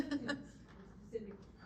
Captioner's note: laughs